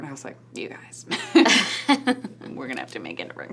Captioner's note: laughs